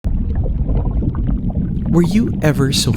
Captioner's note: water gurgles